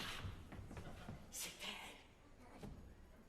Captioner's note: GARDEFEU, whispering; BARON, whispering